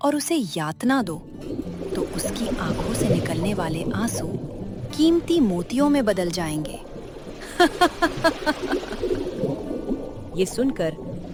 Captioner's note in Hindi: हंसी